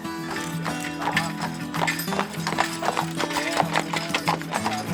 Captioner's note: horse shoes clopping